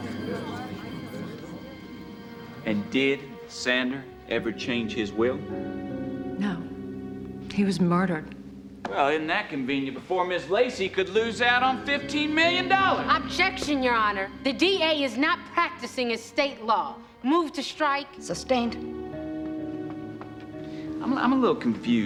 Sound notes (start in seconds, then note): none